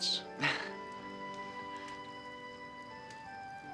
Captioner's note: Rene chuckles